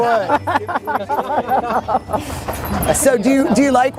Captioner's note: laughter